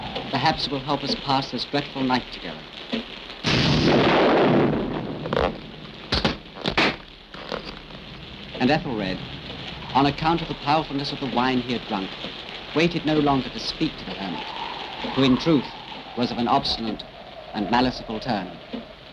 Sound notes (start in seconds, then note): 3.6 thunder cracks; 6.4 wood cracking